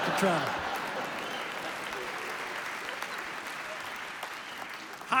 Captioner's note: laughter and applause